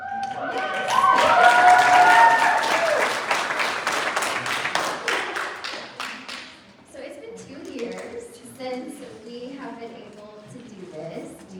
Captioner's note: applause